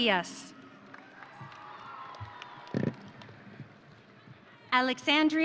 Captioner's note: audience cheering